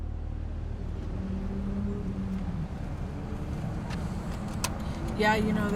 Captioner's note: engines revving in distance